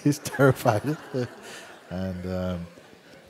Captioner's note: laughter